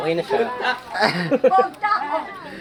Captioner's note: laughs